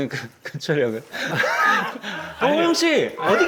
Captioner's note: cracking up